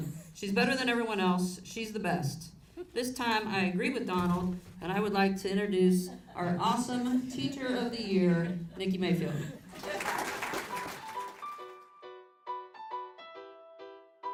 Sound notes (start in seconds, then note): 9.6 audience claps; 10.7 cheerful music